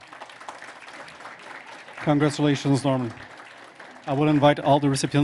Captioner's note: applause